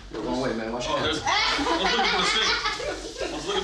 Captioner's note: laughing